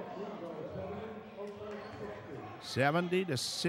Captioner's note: yelling